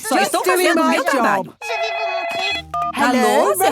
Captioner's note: phone ringing